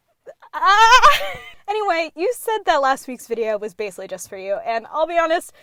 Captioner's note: screams in gay panic